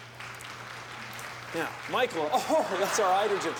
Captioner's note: applause